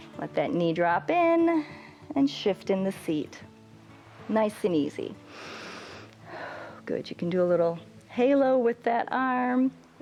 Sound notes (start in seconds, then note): 5.2 inhales and exhales